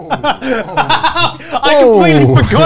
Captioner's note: laughs